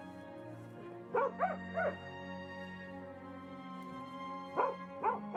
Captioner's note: dogs barking